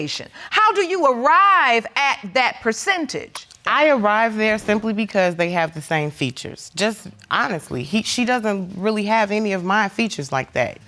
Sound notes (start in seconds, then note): none